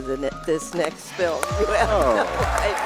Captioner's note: self-serving slow clap